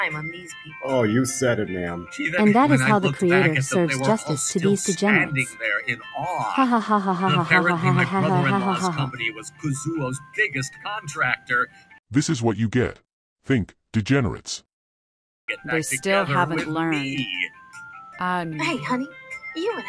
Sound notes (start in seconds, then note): 9.0 laughs